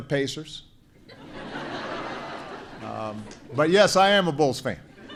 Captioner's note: laughter